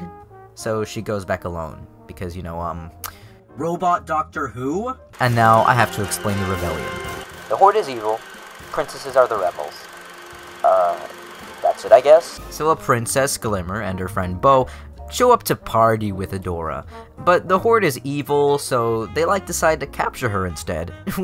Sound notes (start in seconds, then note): 3.0 smacks lips